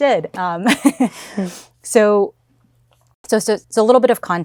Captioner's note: laughs